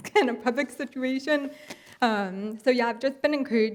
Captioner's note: laughs